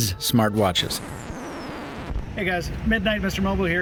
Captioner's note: record scratching